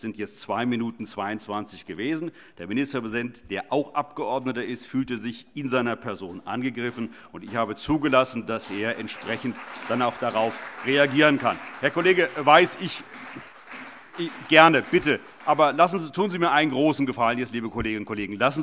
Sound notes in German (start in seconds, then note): 12.2 Beifall CDU und BÜNDNIS 90/DIE GRÜNEN